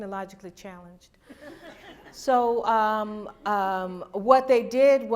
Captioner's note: laughter